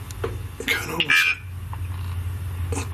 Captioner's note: device vocalising